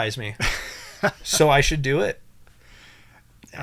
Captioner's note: laughs